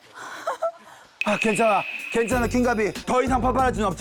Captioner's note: in a soothing voice